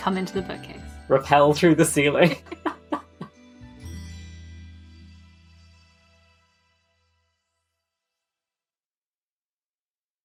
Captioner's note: laughs